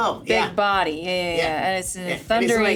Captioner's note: none